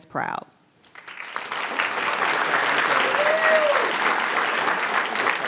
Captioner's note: audience cheering and clapping